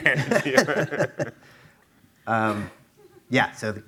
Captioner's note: laughing